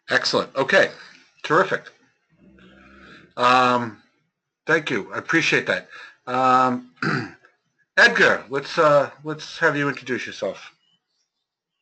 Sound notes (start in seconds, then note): 7.0 cough